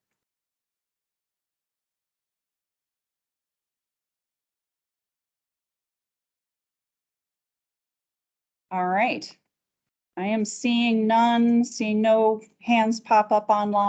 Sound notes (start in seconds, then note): none